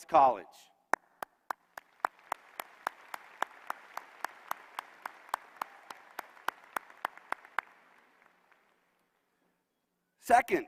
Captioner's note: applause